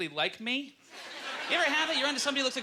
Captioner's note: audience laughter